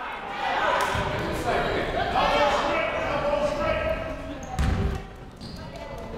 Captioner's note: people shouting in the crowd